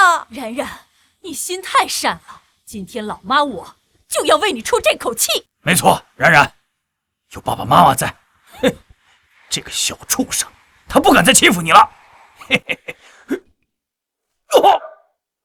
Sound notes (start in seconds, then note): 12.4 chuckles